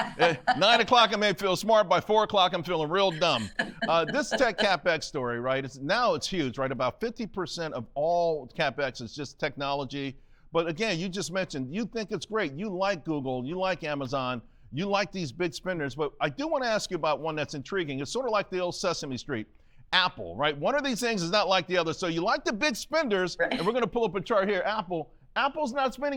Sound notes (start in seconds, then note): 3.2 laughter